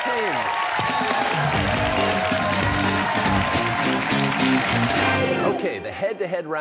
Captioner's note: cheers and applause